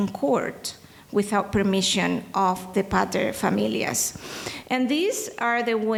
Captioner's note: speaking in foreign language